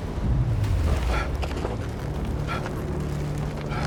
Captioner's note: john gasping